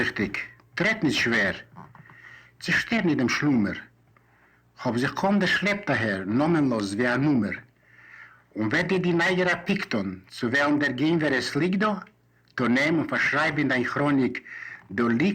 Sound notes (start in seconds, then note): 3.1 in Yiddish